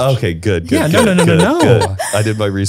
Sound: laughs

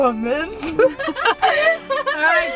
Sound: laughing

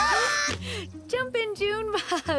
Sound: laughing; laughs

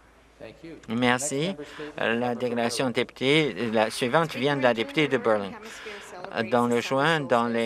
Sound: some Applause

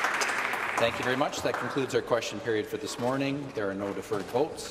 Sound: some Applause

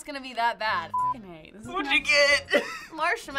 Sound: snickers

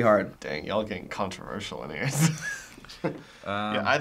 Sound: laughs

